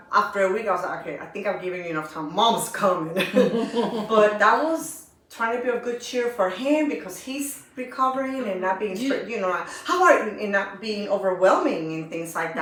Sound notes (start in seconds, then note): 3.1 laughter